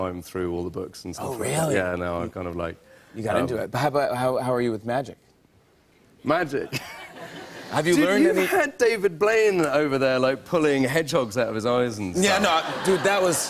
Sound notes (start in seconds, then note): 4.9 laughter; 12.2 laughter